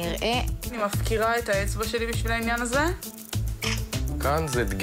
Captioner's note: chuckles